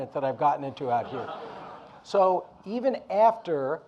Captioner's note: audience laughing